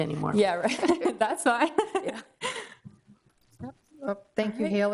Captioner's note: laughs